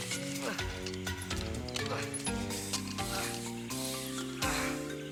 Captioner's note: Roger groaning